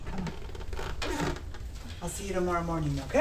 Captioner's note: chair creaks